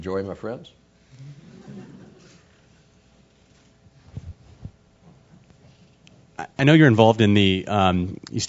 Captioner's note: laugh